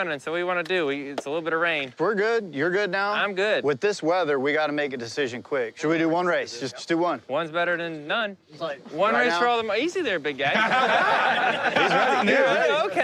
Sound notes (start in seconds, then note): 10.4 laughter